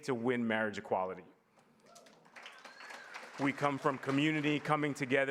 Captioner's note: applause